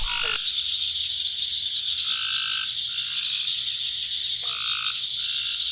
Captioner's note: pounds wildlife sounds